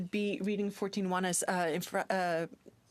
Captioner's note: speaking French